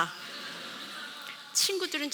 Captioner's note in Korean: 웃음